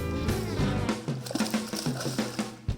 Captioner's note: water splashing; upbeat country rock music